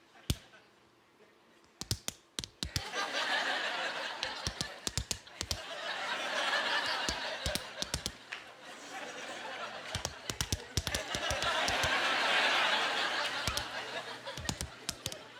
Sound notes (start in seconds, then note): 4.2 smacking; 8.0 laughing; 11.9 smacking